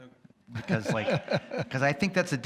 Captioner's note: chuckles